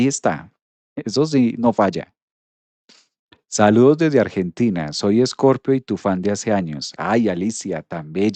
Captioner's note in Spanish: resoplido